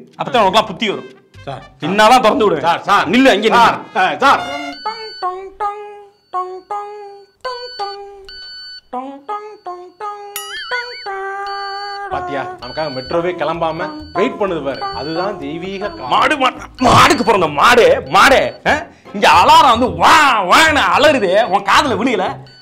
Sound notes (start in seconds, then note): 16.3 officer starts cursing